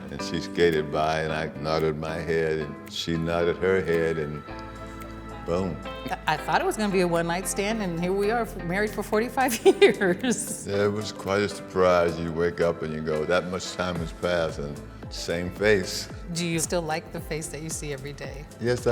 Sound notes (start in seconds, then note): 10.2 laughs